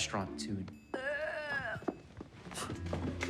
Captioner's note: gagging